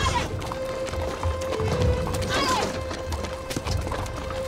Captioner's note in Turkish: Kağnı Sesleri